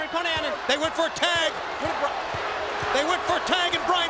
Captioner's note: rousing shouting